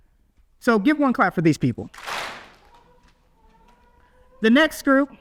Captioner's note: audience claps